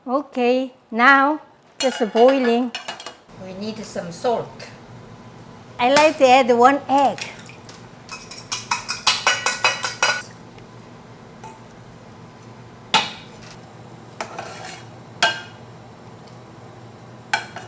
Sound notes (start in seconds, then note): 8.5 beating egg; 14.2 spoon scraping